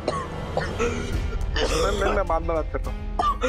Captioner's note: coughs